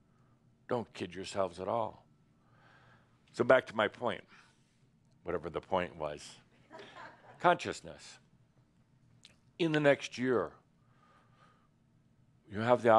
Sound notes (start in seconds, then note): 6.7 a few chuckles